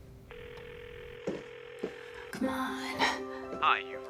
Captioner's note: phone ringing